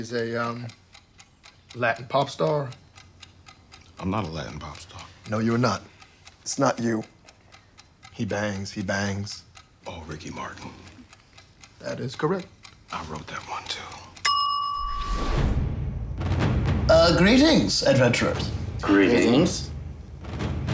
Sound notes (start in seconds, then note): 14.2 dinging; 14.9 intense music